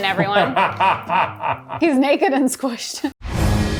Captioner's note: laughing; dramatic music